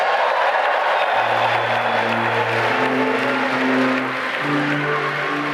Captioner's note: cheering and applause